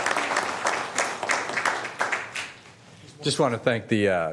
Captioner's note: applause